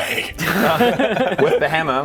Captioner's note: laughs